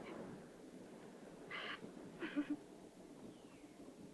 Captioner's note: laugh